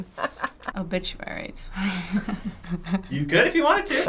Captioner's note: chuckling; cheeky laugh